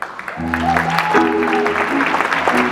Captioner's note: audience clapping; jazz music